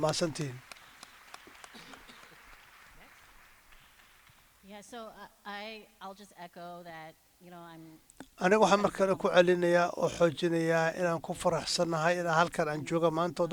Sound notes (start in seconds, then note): 4.6 applause